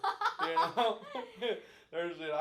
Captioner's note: laughing